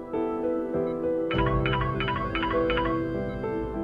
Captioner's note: phone ringing